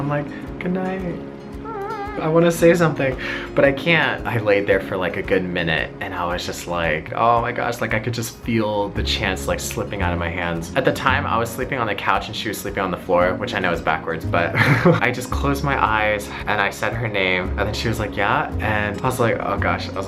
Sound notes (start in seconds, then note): 14.6 laughs